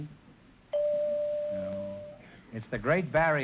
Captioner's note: chime rings